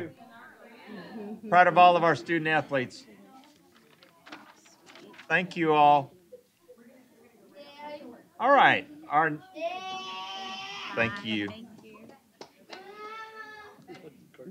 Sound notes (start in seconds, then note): 10.1 shouting